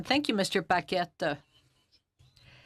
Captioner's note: speaking in French